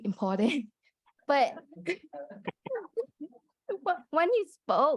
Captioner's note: laughter